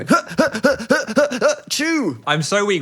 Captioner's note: exaggerated grunts